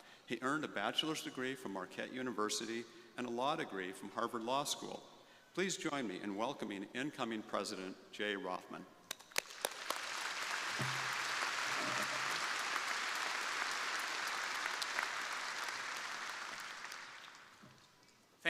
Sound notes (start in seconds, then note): 9.3 crowd applauding